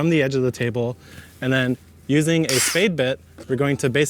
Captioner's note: drill whirring